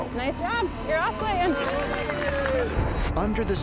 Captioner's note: cheering, applause